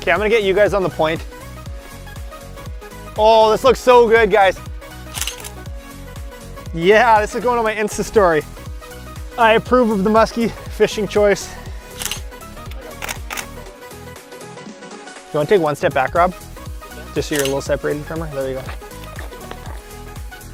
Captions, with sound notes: OK, I'm going to get you guys on the point. Oh, this looks so good, guys. (click) Yeah, this is gonna be the way it ends this story. I approve of the muskie fishing choice. (click, click, click) (upbeat music) Can you take one step back, Rob, just so you're a little separated from her? There you go.